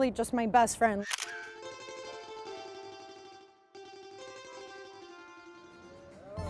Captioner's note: shutter clicks; lively string music